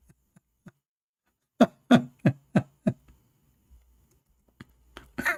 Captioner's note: Ketawa